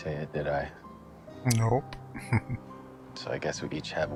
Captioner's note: chuckling